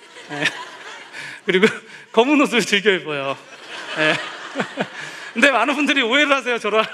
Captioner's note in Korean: 웃음; 웃음